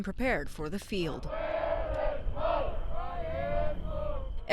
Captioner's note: soldiers chanting